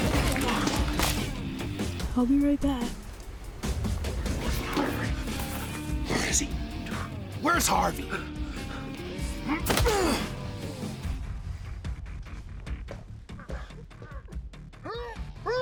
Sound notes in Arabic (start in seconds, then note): 0.0 قعقعة عناصر; 2.2 سخرية; 9.3 لكمة، نخر